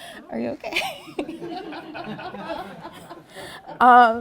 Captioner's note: laughter